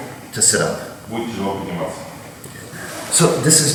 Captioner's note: speaking in a foreign language